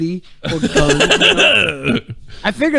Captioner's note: laughing